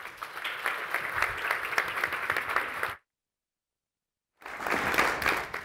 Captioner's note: audience and panelists applauding